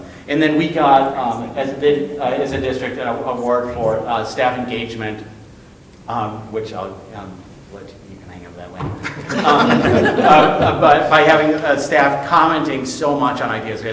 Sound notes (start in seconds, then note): 9.0 all laughing